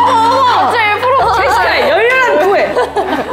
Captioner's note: expectant laughter